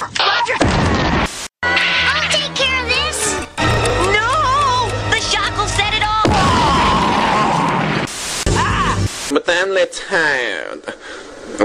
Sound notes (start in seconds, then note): 7.7 bahh; 8.3 screams